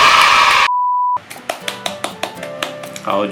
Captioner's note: clapping by myself